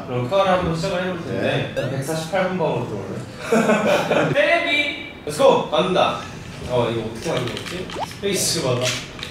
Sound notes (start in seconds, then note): 3.4 laughing